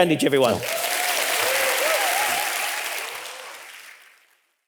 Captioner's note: audience applauding